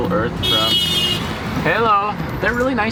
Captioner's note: vehicle hooting